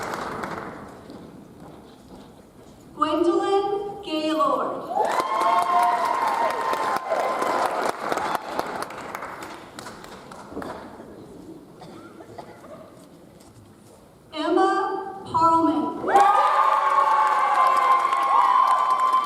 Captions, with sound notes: Gwendolyn Gaylord. (audience applauds) Emma Parman. (audience applauds)